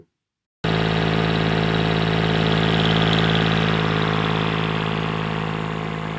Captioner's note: motor noise, fading